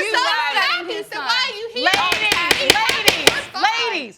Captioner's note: gavel pounding